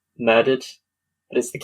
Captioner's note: laughs